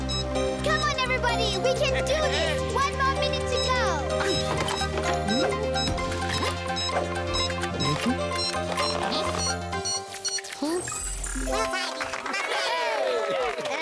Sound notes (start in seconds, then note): 4.2 beeping quickens; 12.0 cheering